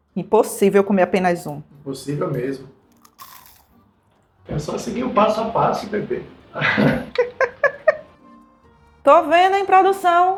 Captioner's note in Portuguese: risadas